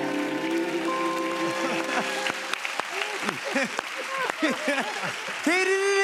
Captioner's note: cheers and applause